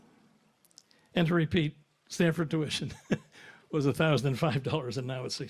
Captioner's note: chuckles